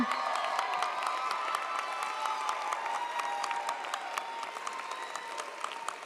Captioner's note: audience applauds; audience cheers